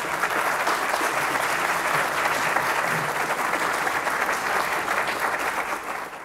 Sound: applause

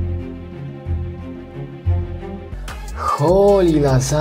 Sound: mysterious sounds

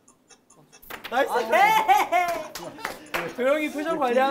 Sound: excited

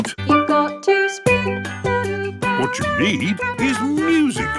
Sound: radio

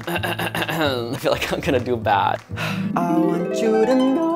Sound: clears throat; gentle harp music

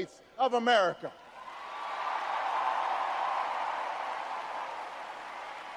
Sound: audience cheers and applauds

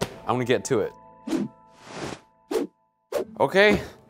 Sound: air swooshing

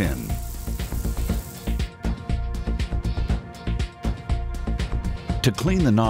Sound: sprinkler clicking; gentle continues music

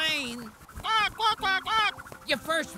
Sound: duck quacking

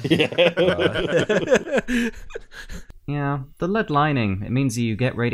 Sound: laughter

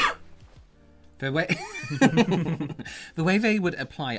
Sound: laughter

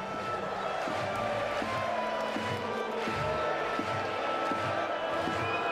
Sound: applause

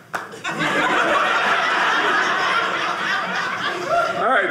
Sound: audience laughing

